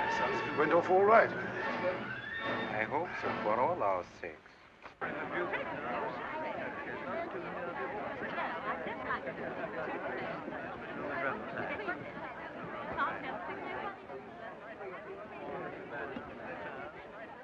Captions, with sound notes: Sounds as if it went off all right. - I hope so, for all our sakes. (commotion and chatter)